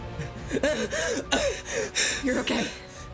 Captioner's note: gasping